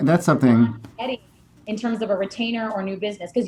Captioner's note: microphone cuts